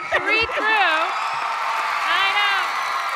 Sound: crowd cheering

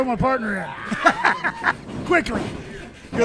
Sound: laughs

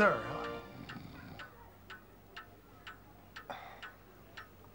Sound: snoring

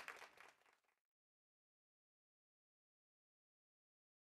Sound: applause

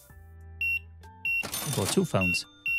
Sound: beeping

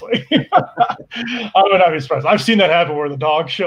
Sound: both laugh

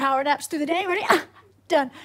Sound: exhales

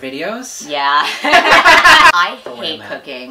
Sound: laugh

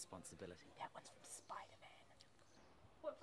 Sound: whispers

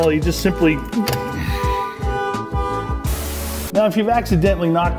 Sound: Joe's truck alarm goes off

